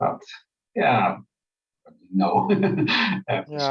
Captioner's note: laughs